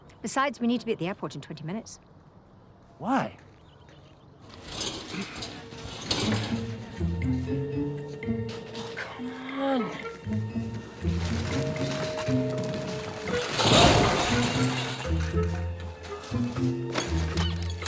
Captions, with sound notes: Besides we need to be at the airport in 20 minutes. - Why? - Come on. (equipment clattering)